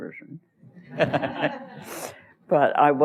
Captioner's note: laughter